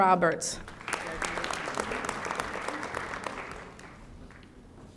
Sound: audience applauding

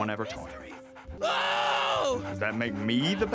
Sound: yells

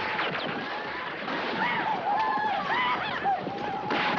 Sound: whooping

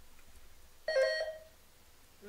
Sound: buzzer sounding

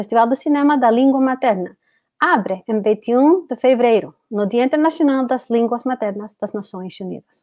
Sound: speaks portuguese

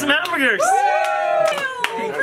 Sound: cheering

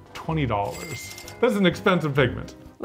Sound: cash register chimes

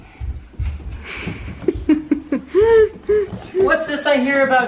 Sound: laughter

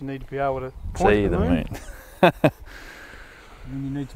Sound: laughing

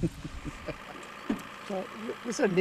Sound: laughing

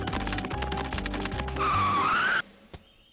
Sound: screeching

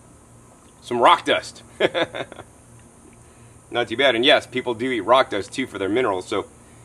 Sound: laughs

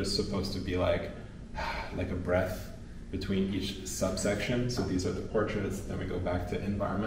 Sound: exhales calmly

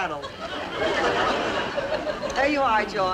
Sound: audience laughing

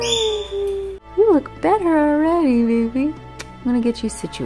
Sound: kissing

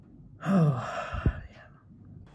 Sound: sighs

